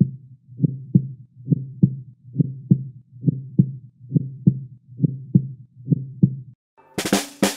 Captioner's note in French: Battements accélérés du cœur